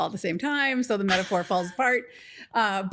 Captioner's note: laughs